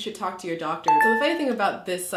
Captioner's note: beeping